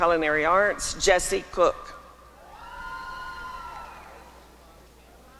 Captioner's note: applause and cheering